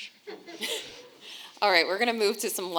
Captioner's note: audience laughing